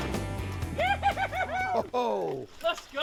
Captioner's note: hollers of joy; laughter